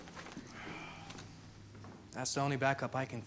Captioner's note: sighs